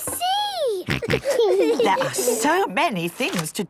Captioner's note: snorts, giggles